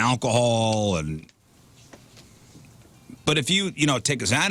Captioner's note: blank Audio